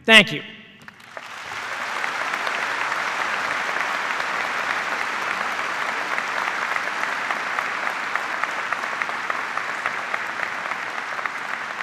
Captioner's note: cheers and applause